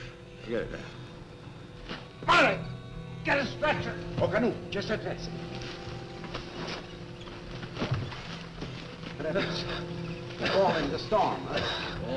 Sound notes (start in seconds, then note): 5.2 speaking foreign language